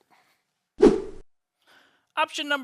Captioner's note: whooshing